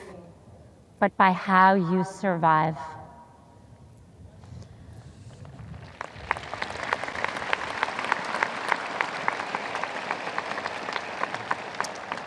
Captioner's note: audience applause